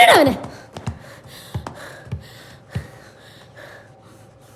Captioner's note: boy panting